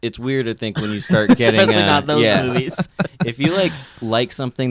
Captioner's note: laughs